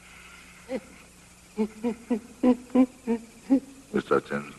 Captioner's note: labored breathing